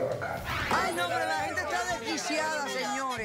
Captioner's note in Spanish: gritos y exclamaciones